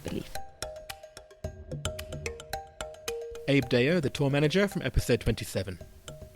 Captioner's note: voiceover